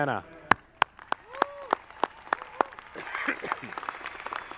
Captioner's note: audience clapping